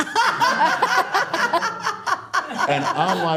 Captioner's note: all laughing